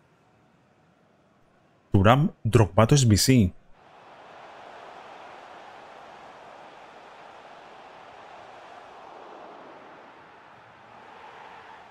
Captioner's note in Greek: χειροκρότημα